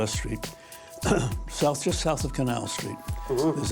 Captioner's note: Albee coughs